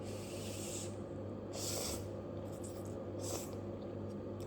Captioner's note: Ogre eats